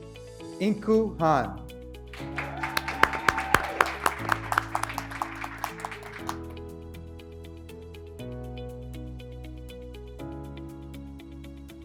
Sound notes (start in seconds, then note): 2.1 graduates cheering; 2.1 graduates clapping